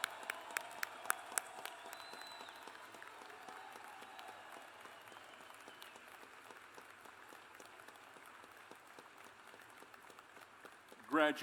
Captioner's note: cheers and applause